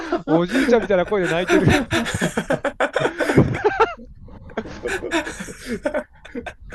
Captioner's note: laughter